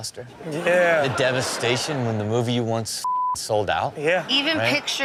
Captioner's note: audience laughing; beep